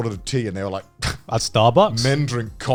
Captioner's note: scoffs